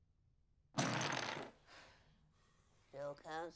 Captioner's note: jenga pieces crash down